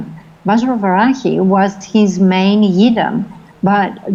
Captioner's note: foreign language